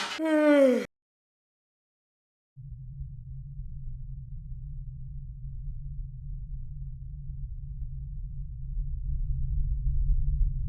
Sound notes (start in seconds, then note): 0.0 loud yawn; 3.2 low rumble